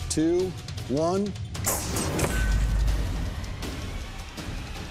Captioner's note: whoosh, clang